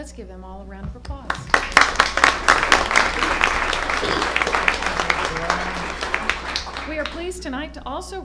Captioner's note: applause